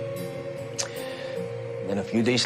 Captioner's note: mouth clicks